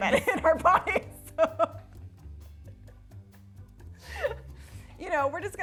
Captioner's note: both chuckling